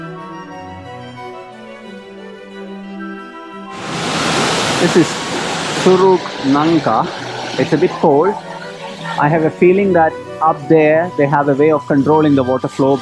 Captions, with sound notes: This is Curug (Waterfall) Nangka. It's a bit cold. I have a feeling that up there they have a way of controlling the water flow.